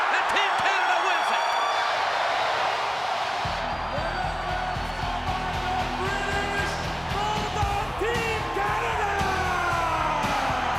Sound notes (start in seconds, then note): 1.4 rock music; 4.2 speaking foreign language